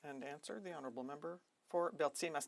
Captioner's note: speaking in French